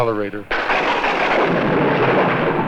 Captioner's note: thunder crashing